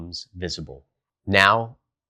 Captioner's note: beat